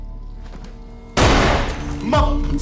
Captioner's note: gun blasting